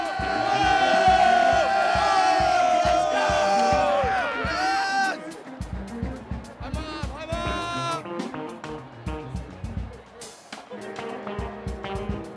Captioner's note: applause